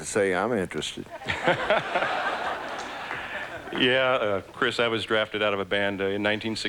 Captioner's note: laughs